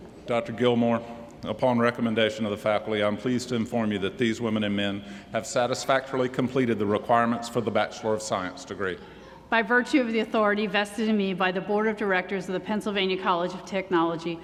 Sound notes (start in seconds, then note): none